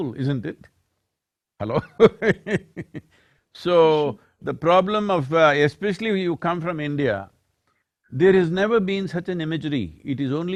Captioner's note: laughs